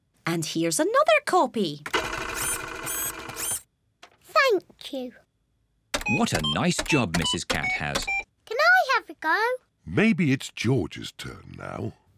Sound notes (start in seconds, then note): 1.9 printer whirring